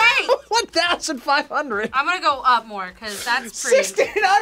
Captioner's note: React laughs